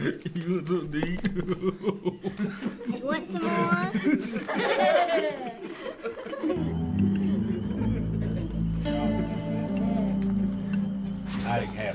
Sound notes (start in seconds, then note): 4.9 children giggling; 6.7 crickets chirping; 11.5 Duncans eating